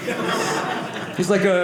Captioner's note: audience laughing